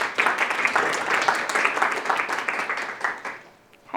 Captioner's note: applause